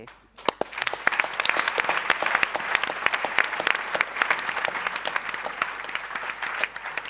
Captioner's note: applause